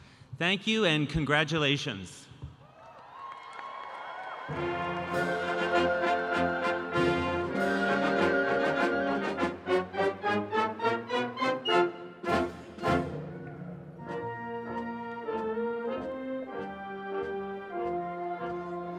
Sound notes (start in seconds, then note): 2.6 audience cheering; 4.9 upbeat brass band music